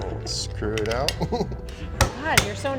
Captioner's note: chuckles